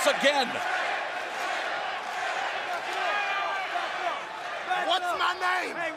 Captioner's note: crowd cheering